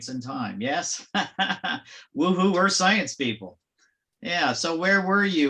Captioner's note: laughs